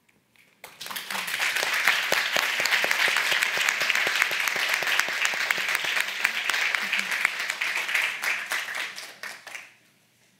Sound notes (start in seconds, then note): 1.0 audience applauding